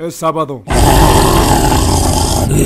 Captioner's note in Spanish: sonidos del diablo